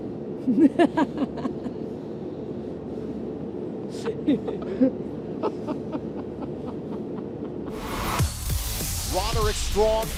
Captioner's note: laughter